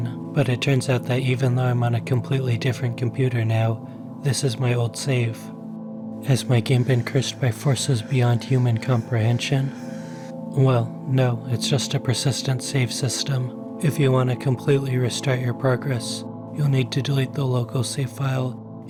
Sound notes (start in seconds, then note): 6.4 mummies Gasping